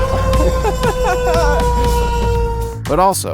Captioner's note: fire truck horn honking; siren wailing